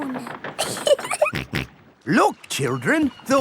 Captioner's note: giggling; snorts